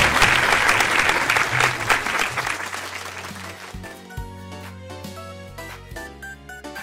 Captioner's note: applause